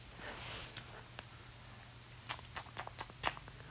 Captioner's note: sucks teeth